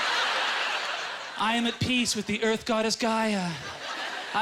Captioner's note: audience laughter